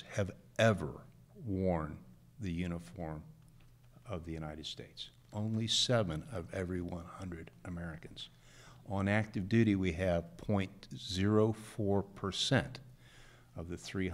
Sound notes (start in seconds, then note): none